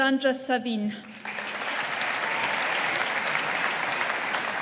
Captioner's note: audience applauding